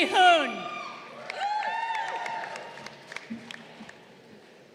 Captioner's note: crowd cheering